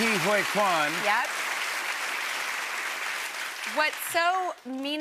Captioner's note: applause